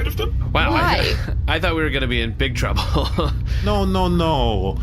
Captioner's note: nervous laughter